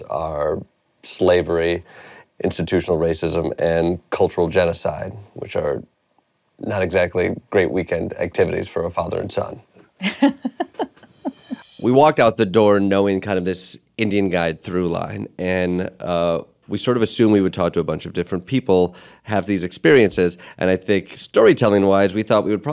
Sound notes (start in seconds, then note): 10.0 laughter